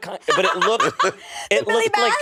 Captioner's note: laughing